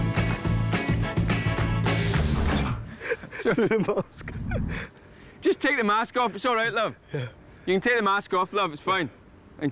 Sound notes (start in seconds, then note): 0.0 music stops; 2.8 both laughing